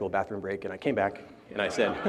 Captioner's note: laughter